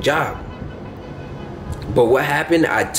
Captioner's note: honking